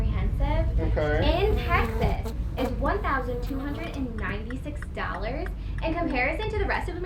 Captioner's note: fly buzzing